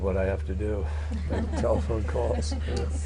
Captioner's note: laughter